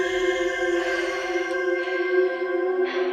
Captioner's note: heavy breathing